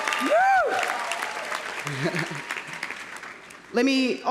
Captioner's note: audience applauding; laughs